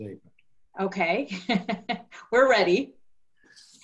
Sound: laughs

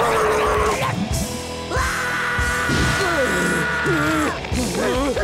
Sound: screaming

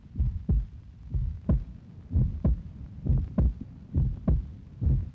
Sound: heart Beating

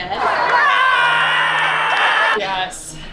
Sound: roars

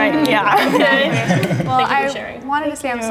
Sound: all chuckling

